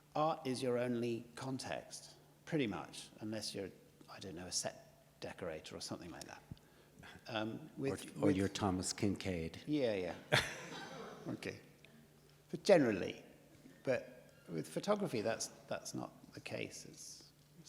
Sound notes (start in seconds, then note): 10.3 audience laughs